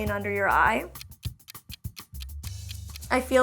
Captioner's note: clock ticking